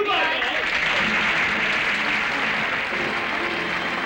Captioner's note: applause